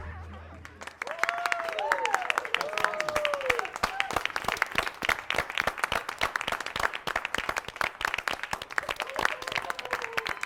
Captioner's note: applause